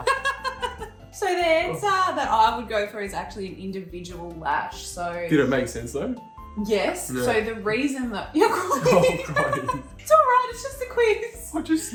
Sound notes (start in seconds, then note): 0.0 both laughing; 8.6 laughing